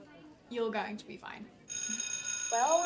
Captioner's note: school bell ringing